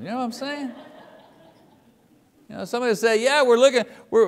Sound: audience laughs

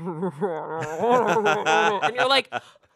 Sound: laughs

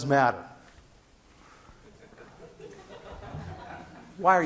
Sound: scattered laughing

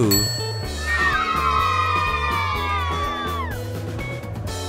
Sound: children cheer

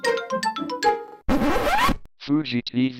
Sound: record scratches

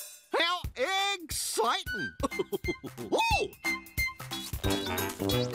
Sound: chuckling

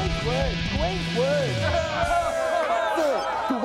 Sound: crowd cheering

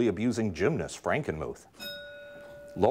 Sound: bell ringing

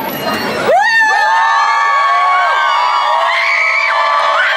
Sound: crowd cheering

